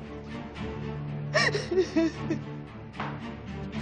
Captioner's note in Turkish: Ağlama sesleri duyulur